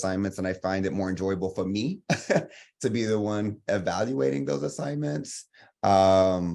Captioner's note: laughs